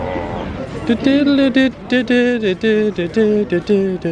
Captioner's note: humming